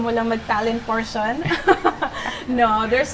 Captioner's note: laughs